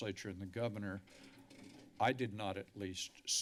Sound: chair squeaking

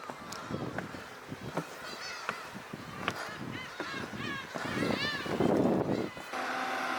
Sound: violent seagulls

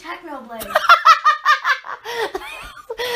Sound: laughing

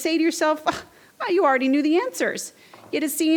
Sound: scoffs

